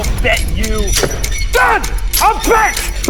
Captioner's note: foot stamps